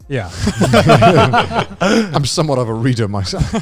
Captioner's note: everybody laughing